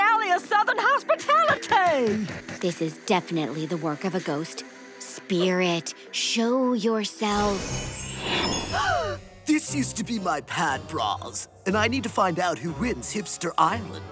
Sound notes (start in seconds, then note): 8.5 gasps